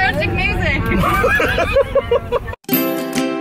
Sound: laughing

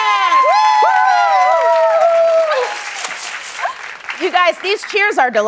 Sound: applause

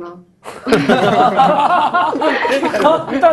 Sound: laughter

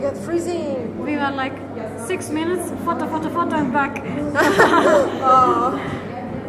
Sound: laughs

